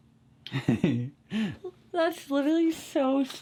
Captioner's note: chuckles